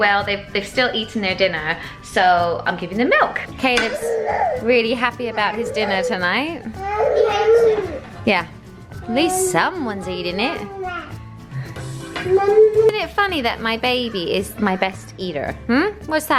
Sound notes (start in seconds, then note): 6.8 crying